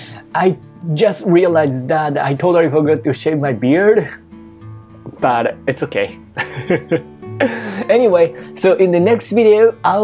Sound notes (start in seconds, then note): 6.3 chuckles